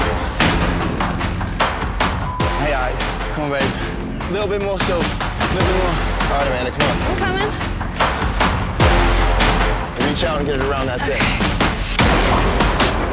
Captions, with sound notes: - (beep) me eyes. Come on babe, little bit more, little bit more. - All right, Amanda, come on. - I'm coming. - Reach out and get it around that thing.